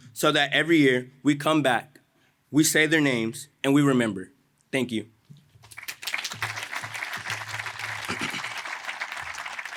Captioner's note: applause